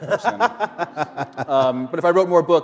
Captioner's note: laughter